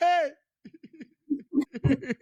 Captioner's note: laughing